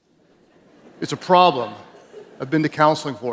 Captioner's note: audience chuckles